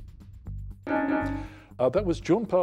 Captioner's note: bell dings